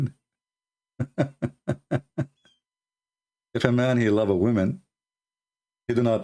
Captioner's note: Ketawa